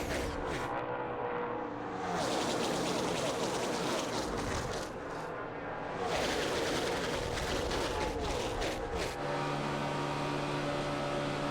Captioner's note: engines roar